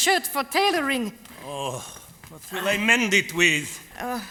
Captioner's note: grunts